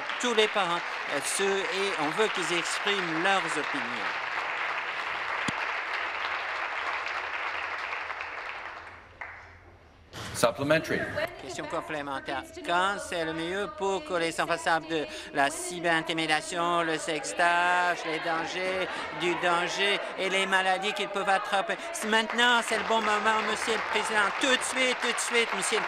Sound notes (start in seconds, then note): 0.0 applause